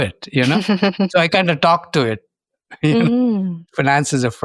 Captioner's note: chuckles